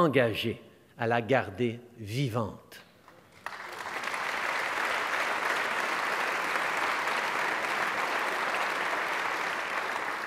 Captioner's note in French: Applaudissements